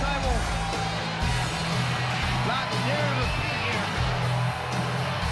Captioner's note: crowd cheering